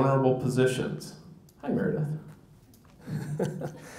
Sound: laughs

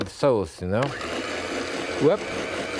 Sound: mixer whirring

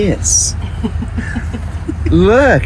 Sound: laughing

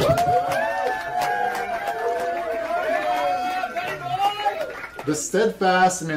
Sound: applause

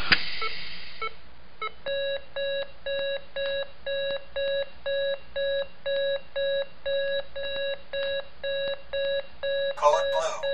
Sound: medical devices beeping

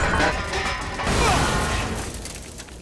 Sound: thudding

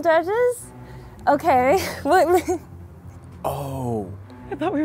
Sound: laughs

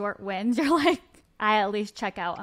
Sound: laughing

